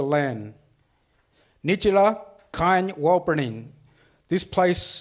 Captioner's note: speaks foreign language